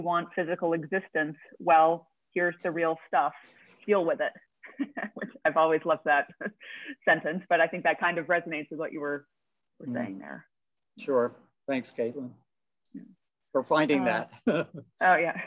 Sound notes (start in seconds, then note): 4.7 chuckling